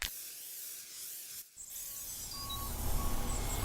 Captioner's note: spray paint spraying; spray paint can rattling; truck beeping